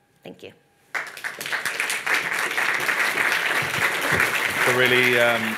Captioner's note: audience claps